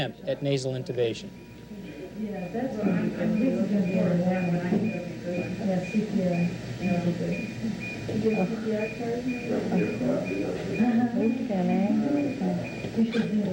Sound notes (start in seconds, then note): 0.0 people talking, heart monitor beeping in background